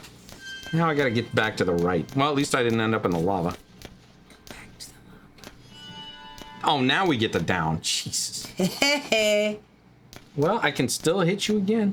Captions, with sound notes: Now I gotta get back to the right. Well, at least I didn't end up in the lava. Go back to the lava. Oh, now we get the down, Jesus. (laughing) Well, I can still hit you again.